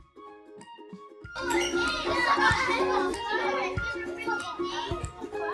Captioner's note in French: bruit d’enfants